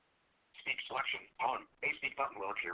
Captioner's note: voiceover